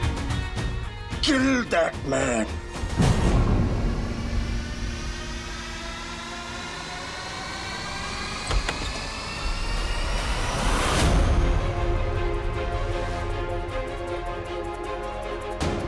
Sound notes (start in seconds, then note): 3.8 tense music; 8.4 door opening; 13.1 sinister music